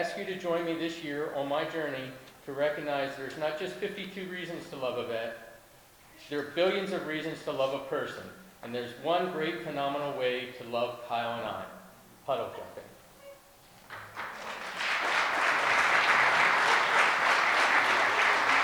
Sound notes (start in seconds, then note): 13.8 audience applause